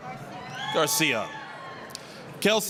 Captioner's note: applause, cheering